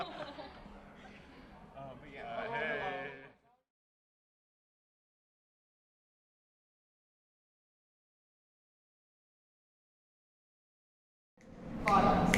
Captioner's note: laughter